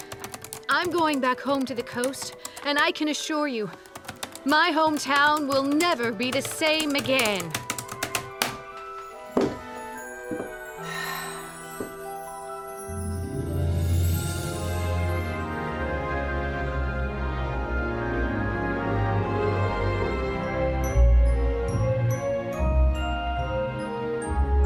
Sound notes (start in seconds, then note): 7.6 typing stops; 10.7 sighs with delight